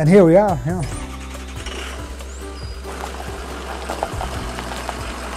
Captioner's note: car engine revving